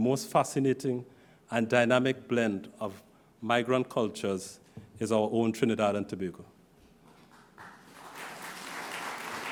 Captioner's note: applause